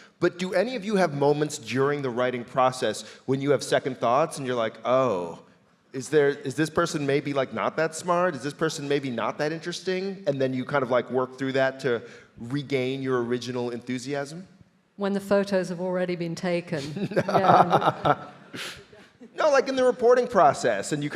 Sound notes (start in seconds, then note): 16.8 laughing